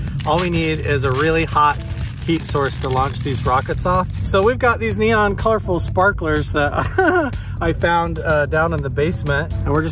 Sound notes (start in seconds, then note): 6.6 laughs